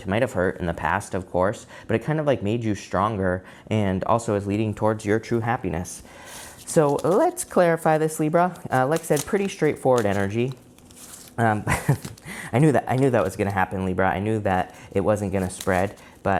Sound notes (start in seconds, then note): 11.7 laughs